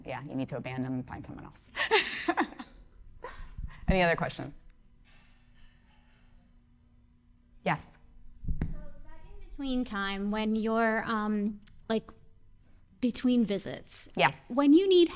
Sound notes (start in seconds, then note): 1.7 laughing